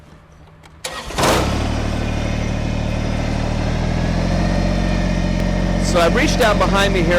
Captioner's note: engine noise